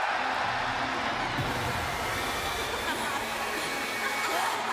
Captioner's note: crowd cheering